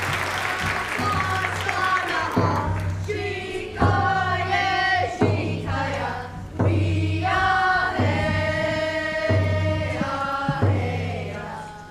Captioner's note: applause